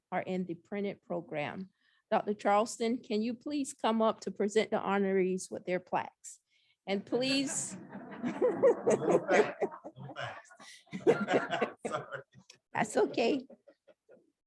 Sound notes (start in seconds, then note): 8.8 laughter